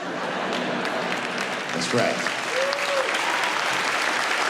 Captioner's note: audience laughing